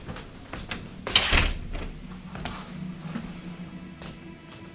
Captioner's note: footsteps approaching; door latching